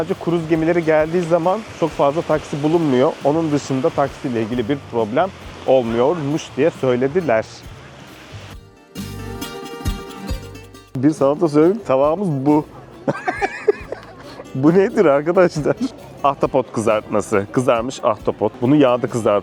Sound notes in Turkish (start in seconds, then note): 13.0 Kahkaha